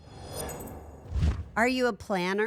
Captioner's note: logo whooshing